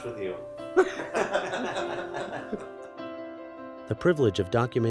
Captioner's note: chuckling